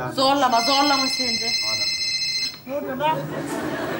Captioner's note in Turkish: telefon çalar